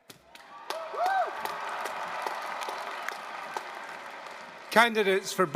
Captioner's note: applause